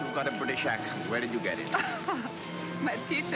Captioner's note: Frederica laughs